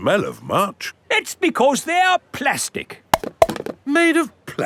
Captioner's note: clunks